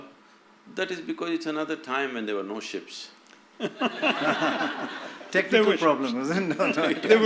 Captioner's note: laughter